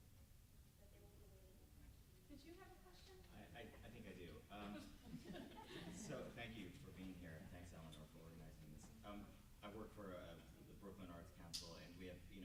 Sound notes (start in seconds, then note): 4.5 group laughs